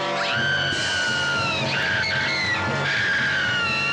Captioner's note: screaming